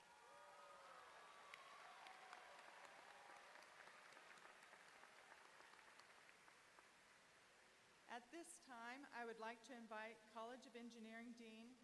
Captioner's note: applause